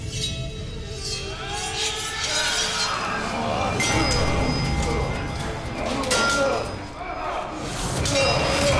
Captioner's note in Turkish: Dövüş sesleri